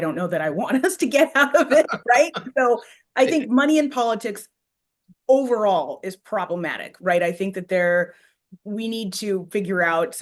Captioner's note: laughs